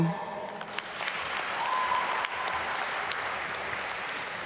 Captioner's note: applause